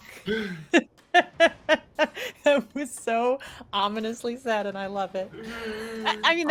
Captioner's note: laughs